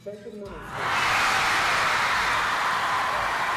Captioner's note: cheering